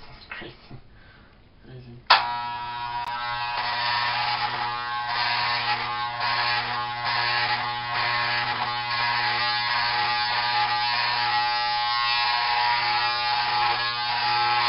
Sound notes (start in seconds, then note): 2.1 hair clippers